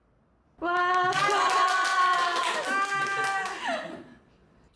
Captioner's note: applause and cheers